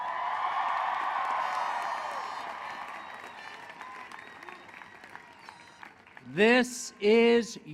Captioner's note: cheering